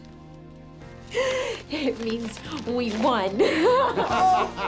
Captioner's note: gasps; laughing